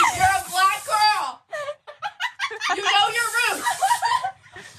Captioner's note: laugh